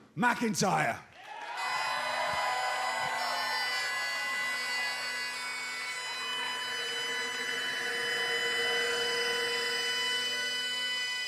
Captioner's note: cheers and applause